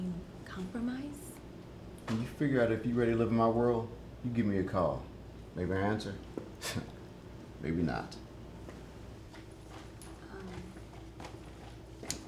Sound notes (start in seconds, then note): 7.0 scoffs